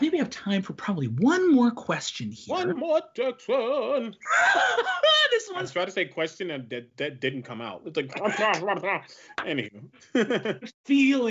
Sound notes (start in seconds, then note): 3.6 laughs; 8.1 laughs